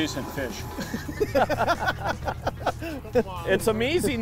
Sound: laughter

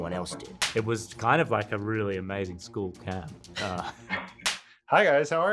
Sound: laughs

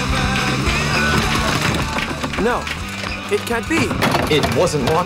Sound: lock rattles

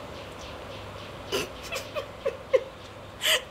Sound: Naziba giggles

